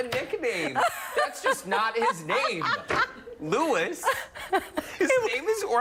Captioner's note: laughter